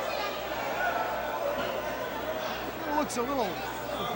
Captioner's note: crowd chatter